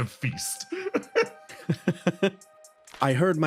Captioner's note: laughs